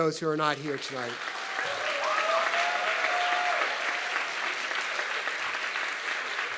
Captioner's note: audience clapping and cheering